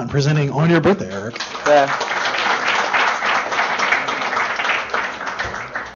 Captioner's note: applause